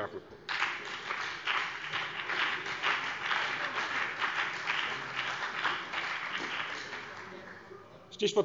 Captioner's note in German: Beifall BÜNDNIS 90/DIE GRÜNEN und vereinzelt CDU